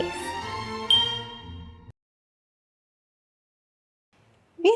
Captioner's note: tone dings